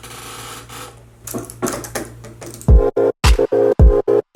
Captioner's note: chair creaks; keyboard clicks; lo-fi music